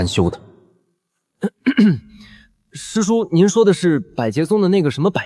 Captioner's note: cough cough